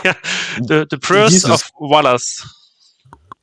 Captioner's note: laughing